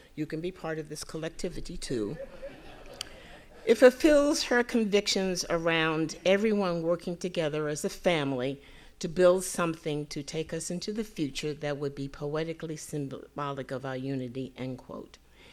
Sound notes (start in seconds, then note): 2.1 audience laughing